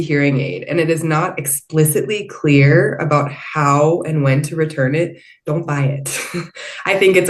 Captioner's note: chuckles